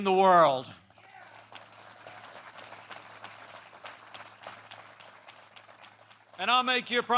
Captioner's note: applause